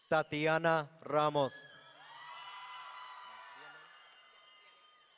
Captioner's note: audience cheering